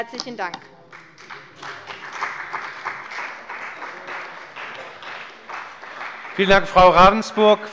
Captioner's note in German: Beifall bei der CDU und dem BÜNDNIS 90/DIE GRÜNEN